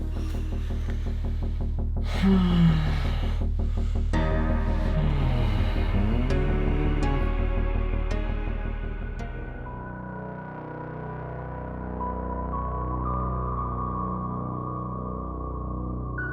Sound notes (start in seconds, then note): 2.0 groaning continues; 9.3 mysterious music